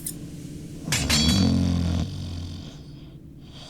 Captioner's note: blade clangs